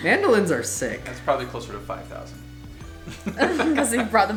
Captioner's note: male Voice; laughs